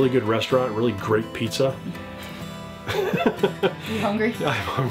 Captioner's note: laughs